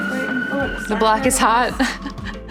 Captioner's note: siren noise